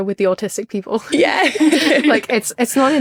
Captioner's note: both laughing